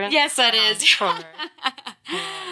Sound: laughs

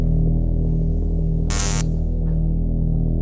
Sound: electricity fizzes

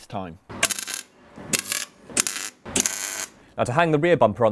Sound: welding

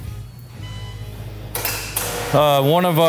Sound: machine beeps

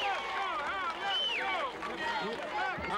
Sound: crowd

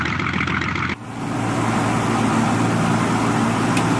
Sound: engine sounds

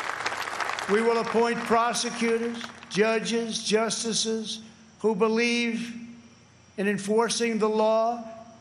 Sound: applause

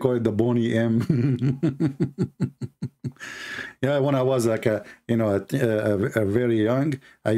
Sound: Ketawa

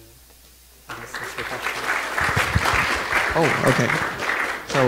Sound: crowd applauding

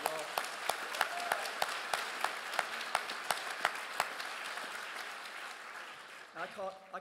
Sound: crowd claps and cheers

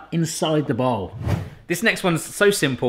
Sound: wind gust transition effect

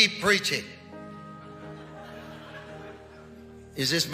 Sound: congregation laughing

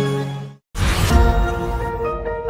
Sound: riser

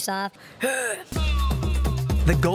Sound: clears throat

